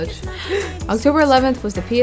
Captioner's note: gasp